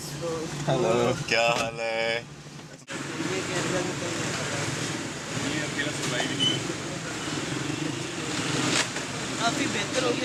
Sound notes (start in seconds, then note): 3.1 traffic noise